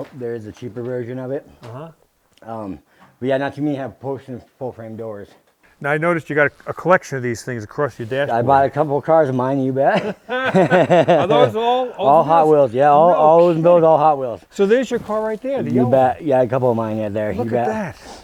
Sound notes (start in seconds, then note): 9.8 chuckling